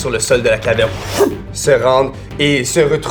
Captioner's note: wind sound